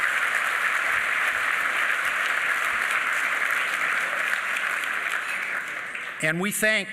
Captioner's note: applause